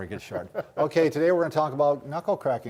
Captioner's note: laughs